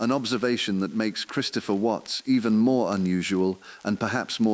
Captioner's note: exhale